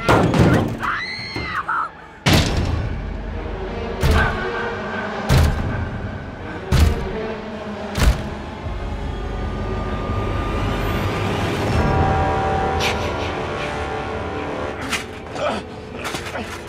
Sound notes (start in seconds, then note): 0.1 screaming continues; 2.3 repeated loud banging; 8.0 final bang, splat; 15.2 struggling, grunting